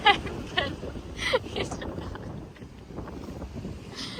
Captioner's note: continues to laugh